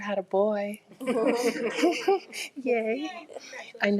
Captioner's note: everyone chuckling